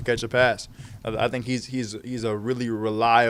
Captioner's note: stutters